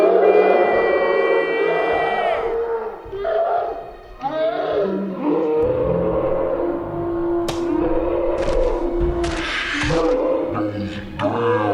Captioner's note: screams, crying